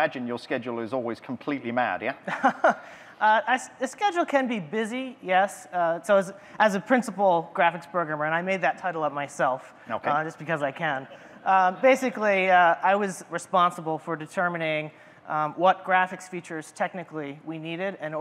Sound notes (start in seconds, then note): 1.9 laughs